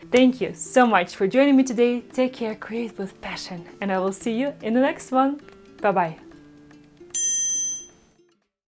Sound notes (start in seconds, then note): 7.1 tone chimes